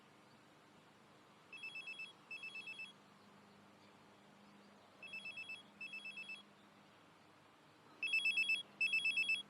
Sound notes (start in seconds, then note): 5.4 mobile phone rings